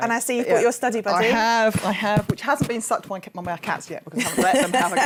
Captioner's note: laughing